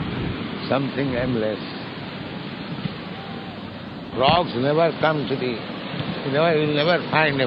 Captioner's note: some noise of people yelling a distance away